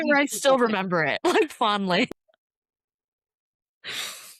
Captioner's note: laughter